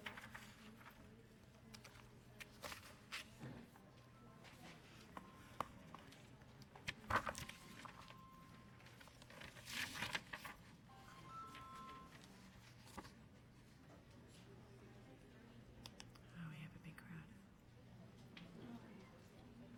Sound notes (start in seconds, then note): 4.1 phone ringing